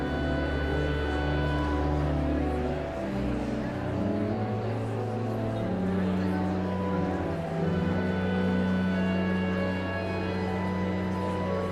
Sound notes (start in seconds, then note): 0.9 pensive organ music continues; 5.0 audience chattering continues